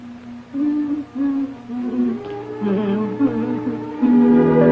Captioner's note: Minnie humming